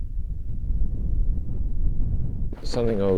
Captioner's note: wind blowing